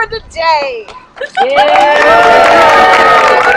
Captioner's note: applause